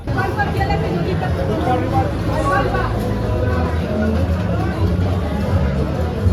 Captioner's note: market sounds